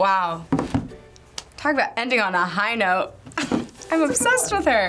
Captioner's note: chuckles